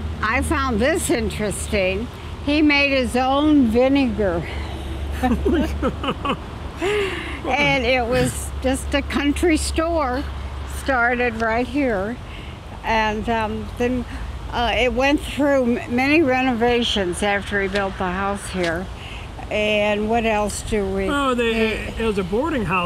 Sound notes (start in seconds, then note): 5.1 laughter